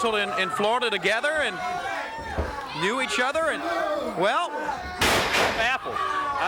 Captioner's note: body thudding